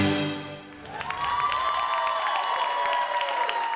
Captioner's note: applause